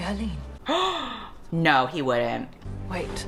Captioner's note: gasps